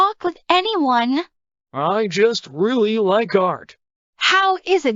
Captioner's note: quieter